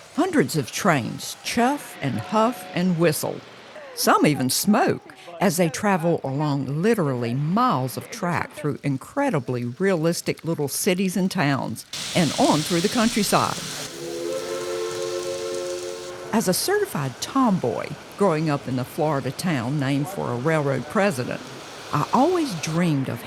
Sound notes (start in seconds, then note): 14.4 train whistle blows